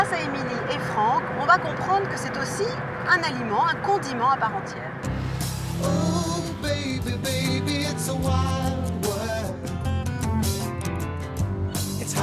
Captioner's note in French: chant